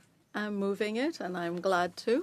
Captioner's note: speaking French